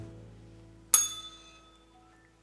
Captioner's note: bell rings